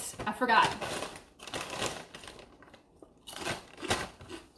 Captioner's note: chips crunching